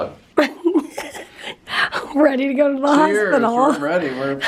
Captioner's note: giggles